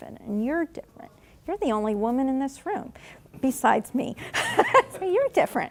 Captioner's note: laughing